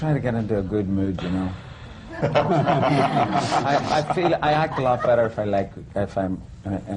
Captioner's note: laughter